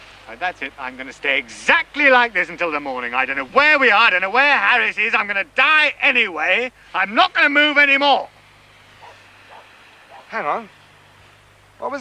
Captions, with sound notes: That's it! I'm going to stay exactly like this until the morning. I don't know where we are, I don't know where Harris is, I'm going to die anyway, I'm not going to move any more. (BARKING IN DISTANCE) Hang on, what was that?